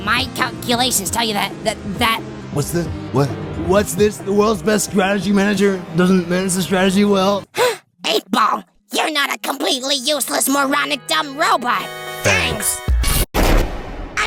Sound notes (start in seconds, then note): 7.5 gasp